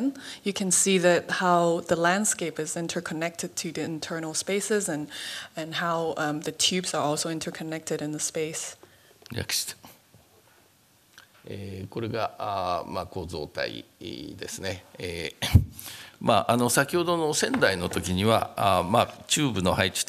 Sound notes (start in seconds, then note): 11.4 speaking japanese